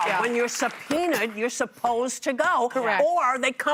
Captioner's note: applause